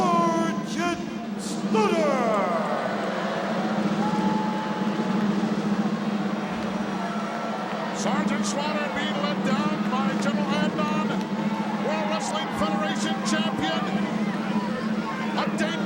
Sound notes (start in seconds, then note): 2.5 crowd boos; 2.5 military drum roll